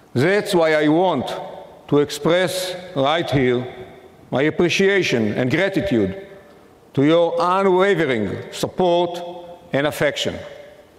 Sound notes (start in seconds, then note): none